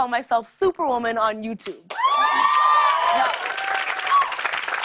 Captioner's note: cheers and applause